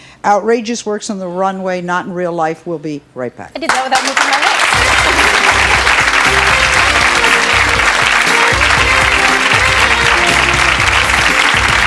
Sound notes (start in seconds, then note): 3.6 audience clapping; 4.7 jazzy music